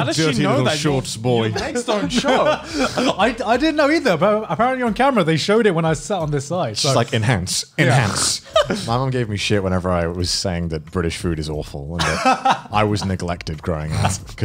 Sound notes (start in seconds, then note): 12.0 laughs